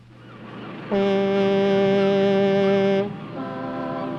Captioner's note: boat Whistle Blows In Distance